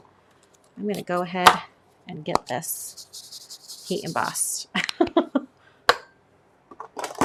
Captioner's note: laughs